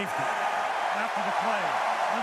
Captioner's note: cheering